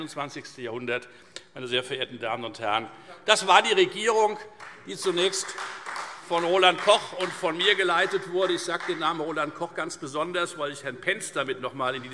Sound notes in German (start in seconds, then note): 1.2 Beifall Freie Demokraten